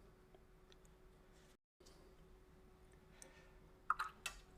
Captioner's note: silence